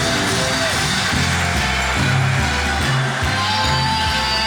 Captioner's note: triumphant marching band music; whistle blows